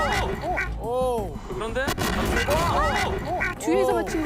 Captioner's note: crashed into from behind